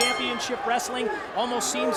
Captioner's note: bell ringing